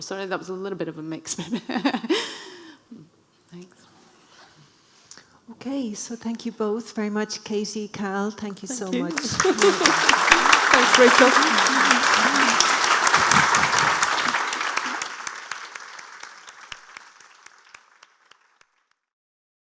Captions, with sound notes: So that was a little bit of a mix but... Thanks. - Okay, so thank you both very much, Katie, Cal, thank you so much. - Thank you. (audience applauding) That was a great talk. (audience applauding)